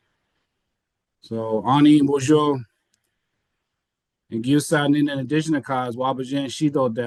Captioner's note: speaking foreign language